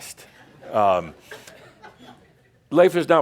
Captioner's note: a few more chuckles